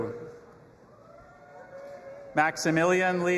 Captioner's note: audience applauding and cheering